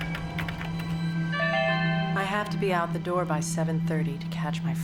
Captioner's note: typing; chime